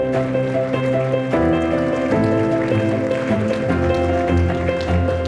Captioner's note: audience applauding